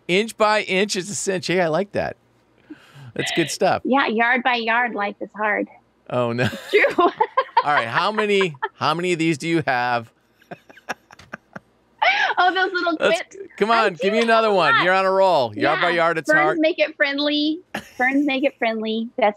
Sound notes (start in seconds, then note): 6.2 laughs; 12.0 laughs